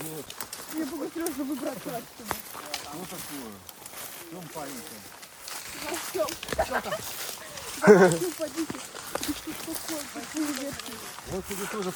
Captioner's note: chatter